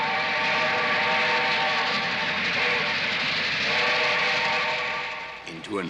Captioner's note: train whistles